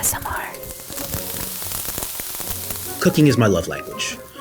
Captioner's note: food sizzles